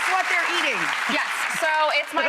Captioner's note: audience applauding